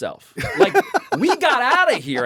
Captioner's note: laughs